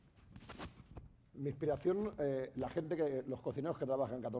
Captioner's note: speaking spanish